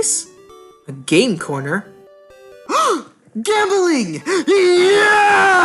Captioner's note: gasp